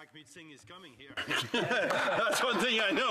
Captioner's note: speaking French